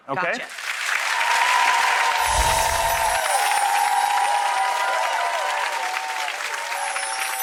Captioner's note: audience clapping; chimes tinkling